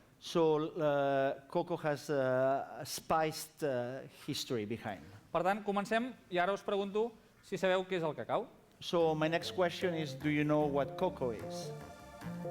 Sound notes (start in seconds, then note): 0.0 non-english speech; 6.5 non-english speech